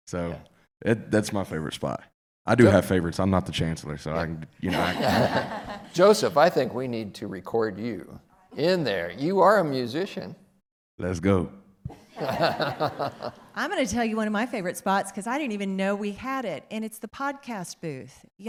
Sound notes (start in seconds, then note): 4.6 people laughing; 12.0 people laughing